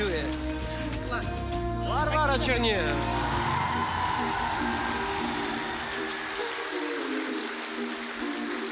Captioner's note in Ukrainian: оплески